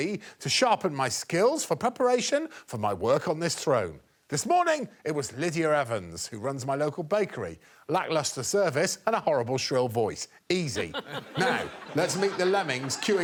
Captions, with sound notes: to sharpen my skills for preparation for my work on this throne. This morning, it was Lydia Evans, who runs my local bakery. Lacklustre service and a horrible shrill voice. -Easy. -[audience laughing] Now, let's meet the lemmings queuing up